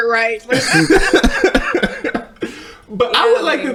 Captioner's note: both laughing